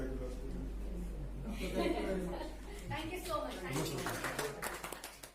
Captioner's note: claps in the background